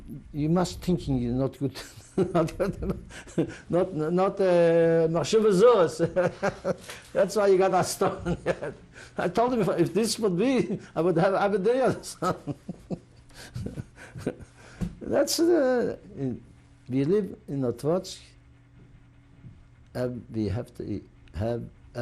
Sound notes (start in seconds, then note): 4.7 yiddish; 5.5 laughs; 11.8 laughs